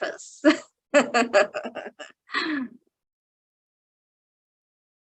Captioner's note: chuckling